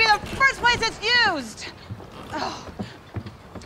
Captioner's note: groaning